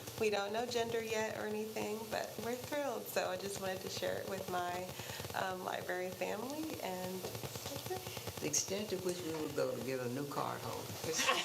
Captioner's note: static